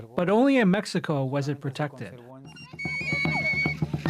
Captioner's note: speaking alternate language